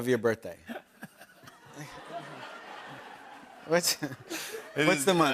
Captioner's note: laughter